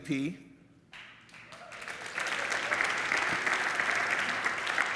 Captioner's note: audience applauds